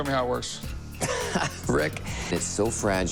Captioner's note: laughs